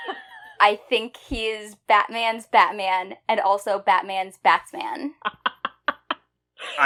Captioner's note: laughs